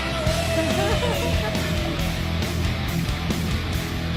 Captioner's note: laughing